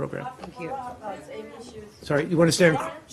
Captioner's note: reporters chattering